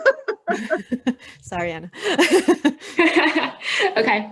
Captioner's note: laughing; laughing